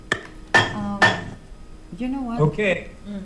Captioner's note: gavel slams the block